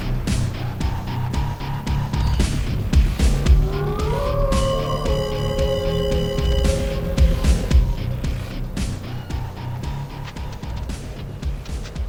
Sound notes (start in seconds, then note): 3.0 resonating howl